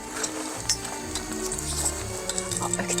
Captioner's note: flutter flutter